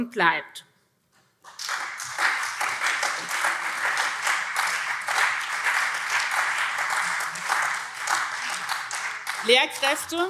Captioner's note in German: Beifall SPD und vereinzelt CDU